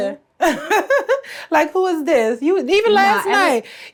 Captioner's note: laughs